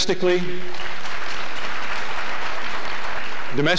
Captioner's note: applause